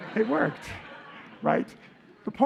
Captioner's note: laughter